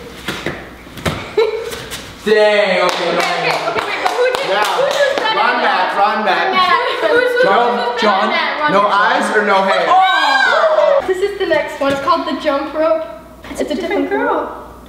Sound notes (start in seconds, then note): 2.8 claps; 9.8 screams